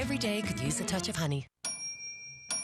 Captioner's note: microwave dinging